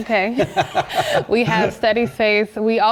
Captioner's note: laugh